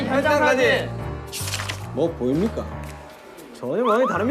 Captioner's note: mysterious footstep